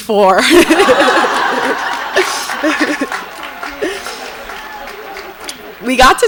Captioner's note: audience laughs and applauds; laughs